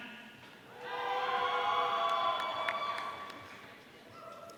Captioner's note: audience cheering